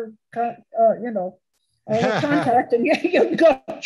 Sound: laughs

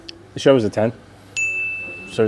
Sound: bell chimes

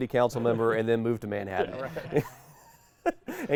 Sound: laughs

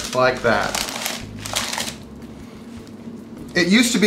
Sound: paper crackling

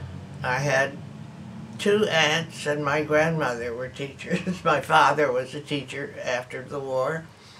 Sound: laughs

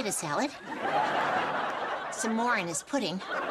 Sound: audience laughing

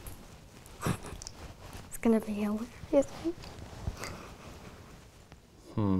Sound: laughing

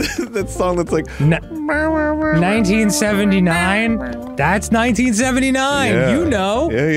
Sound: laughing; vocalising

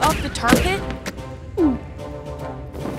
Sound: gulping

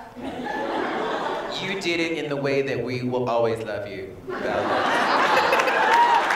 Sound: laughter

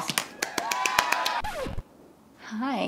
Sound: crowd cheering; record scratch

